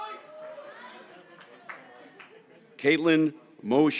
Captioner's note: graduates cheering